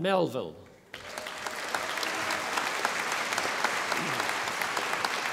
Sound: audience applauding

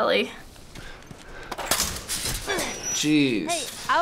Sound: gate creaks, Ellie grunts

